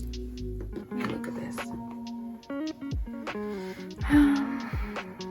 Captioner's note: sigh